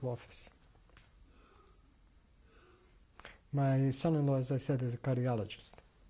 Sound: pauses for 3 seconds

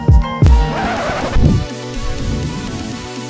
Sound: tape screeching; upbeat music

